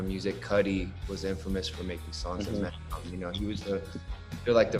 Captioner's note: audio breaks